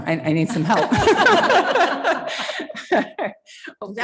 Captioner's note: chuckling